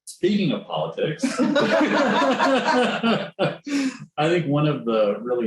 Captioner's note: laughter